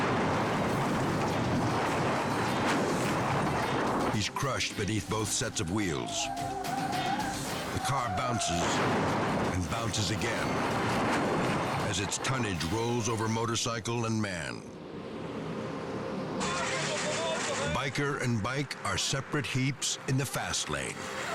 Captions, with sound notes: (car thudding) He's crushed beneath both sets of wheels. The car bounces (car thudding) and bounces again as its tonnage rolls over motorcycle and man. Biker and bike are separate heaps in the fast lane.